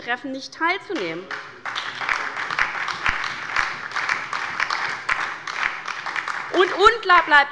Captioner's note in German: Beifall bei der LINKEN und der SPD